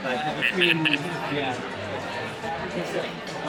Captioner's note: laughs